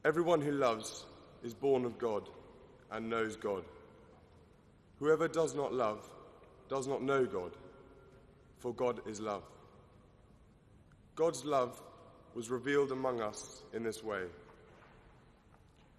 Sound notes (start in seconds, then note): none